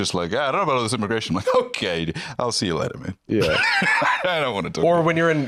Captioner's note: laughs